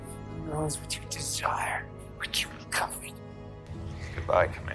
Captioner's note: voiceover